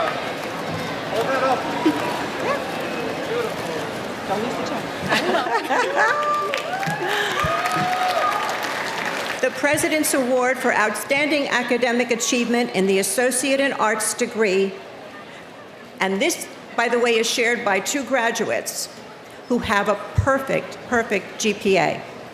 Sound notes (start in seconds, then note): 4.4 laughing; 4.7 speaking off microphone